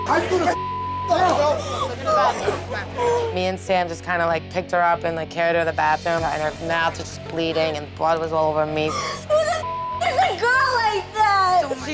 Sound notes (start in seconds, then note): 2.7 sobbing